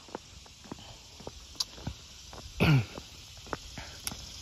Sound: clears throat

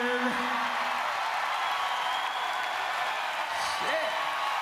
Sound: cheers

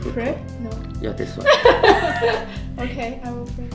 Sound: laugh

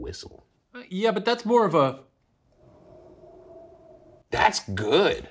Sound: mimics wind

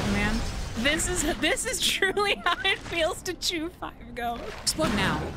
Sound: laughing

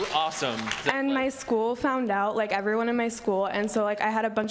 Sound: applause

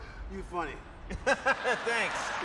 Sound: nervous laugh

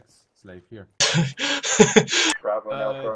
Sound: dark laughs

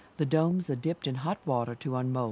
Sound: voiceover

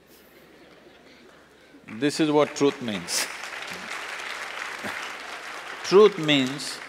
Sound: applause

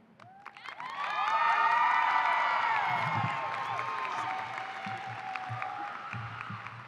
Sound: applause and cheering

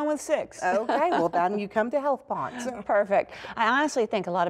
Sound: laughter

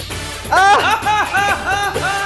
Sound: shouting

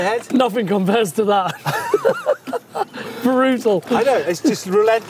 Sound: laughing

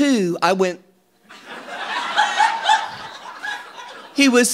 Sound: audience laughing

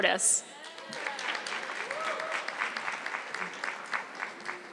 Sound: audience clapping

